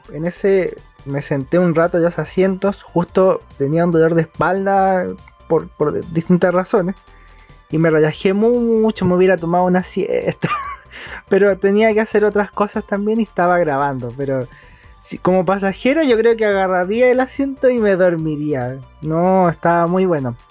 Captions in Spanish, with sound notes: en ese me senté un rato justo tenía un dolor de espalda, por distintas razones y me relajé mucho (risas), me hubiera dormido una siesta pero tenía que hacer otras cosas también y estaba grabando pero como pasajero, yo creo que me sentaría y dormiría, estaba muy bueno